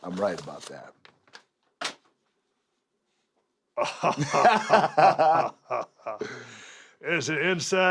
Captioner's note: laugh